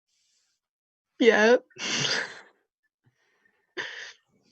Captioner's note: laughs